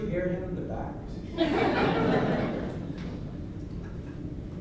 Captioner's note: laughter